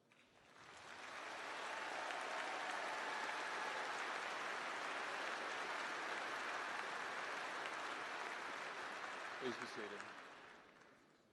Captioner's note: applause